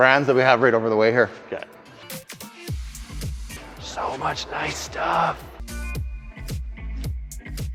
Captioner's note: whisper